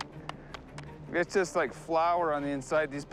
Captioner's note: cracking sound